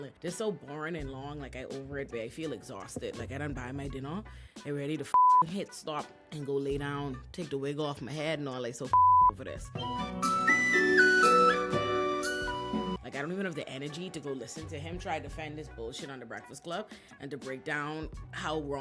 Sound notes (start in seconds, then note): 5.1 beep; 8.9 beep; 10.6 upbeat music